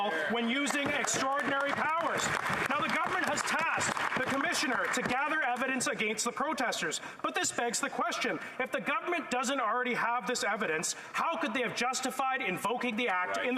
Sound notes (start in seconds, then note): 6.3 applause